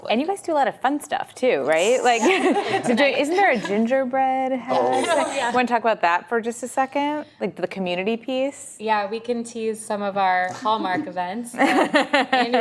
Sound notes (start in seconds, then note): 2.2 laughter; 4.7 laughs